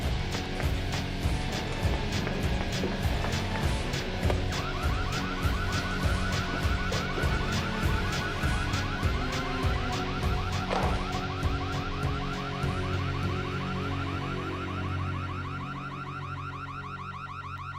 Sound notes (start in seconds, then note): 4.5 alarm ringing